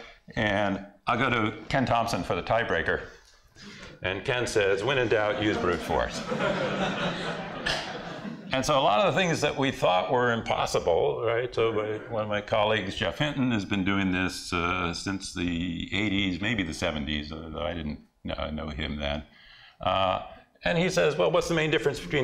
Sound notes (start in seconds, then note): 5.2 laughter